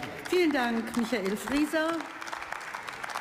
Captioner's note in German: Beifall